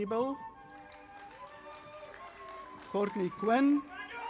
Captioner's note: audience applauding